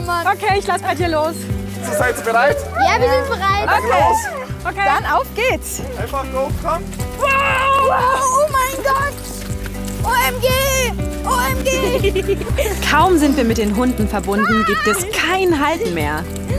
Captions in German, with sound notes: Okay, ich lass bei dir los. - Seid ihr bereit? Ja, wir sind bereit. - Dann auf geht's! Einfach hochkommen. (Sie schreien.) Oh mein Gott! OMG! OMG! (Kichern) Kaum sind wir mit den Hunden verbunden, gibt es kein Halten mehr.